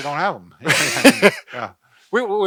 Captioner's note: laugh